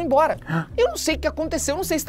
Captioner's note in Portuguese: faz som de surpresa